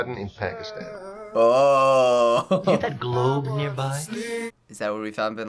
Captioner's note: chuckles